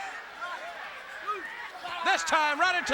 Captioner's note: audience chattering